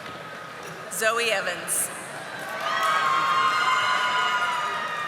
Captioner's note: audience applauding